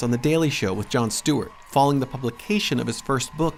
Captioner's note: cheers and applause